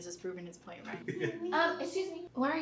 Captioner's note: Chris giggles; Chelsea babbles